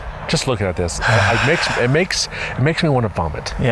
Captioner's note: sighs